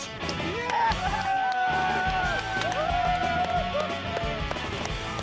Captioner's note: applause